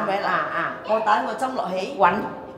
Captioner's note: Cantonese